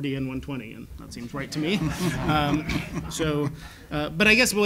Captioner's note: laugh